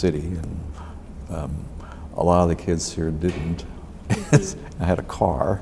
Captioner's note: both laugh; laughs